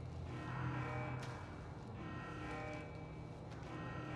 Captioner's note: alarm continue blaring